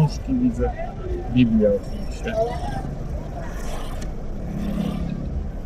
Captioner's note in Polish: dźwięki z ulicy